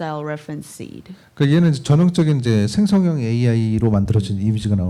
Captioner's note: speaking korean